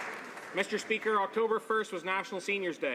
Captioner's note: some Applause